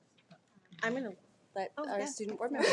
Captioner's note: laughs